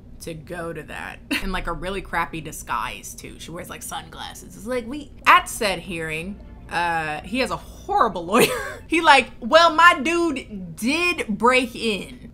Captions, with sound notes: to go to that in like a really crappy disguise too. She wears like sunglasses. At said hearing, he has a horrible lawyer. (laughs) He like, "Well, my dude did break in,